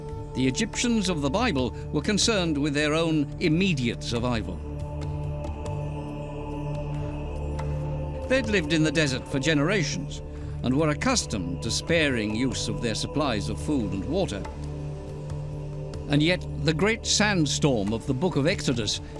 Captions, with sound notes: The Egyptians of the Bible were concerned with their own immediate survival. [men chanting] They'd lived in the desert for generations, and were accustomed to sparing use of their supplies of food and water. And yet, the great sandstorm of the Book of Exodus